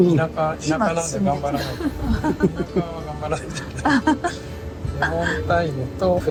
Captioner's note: laughs